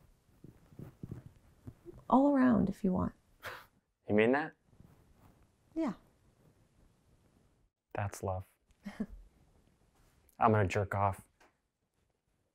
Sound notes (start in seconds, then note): 8.8 laughs